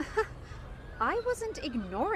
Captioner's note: soft laugh